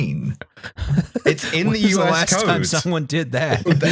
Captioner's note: laughing